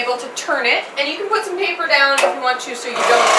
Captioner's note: interrupted by the loud air compressor turning on